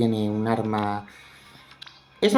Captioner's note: catching breath